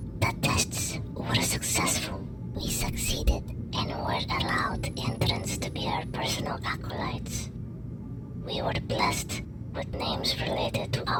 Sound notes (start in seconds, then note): none